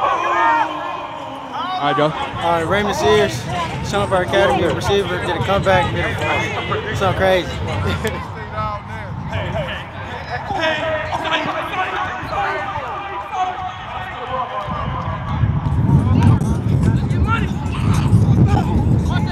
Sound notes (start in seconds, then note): 11.6 shouting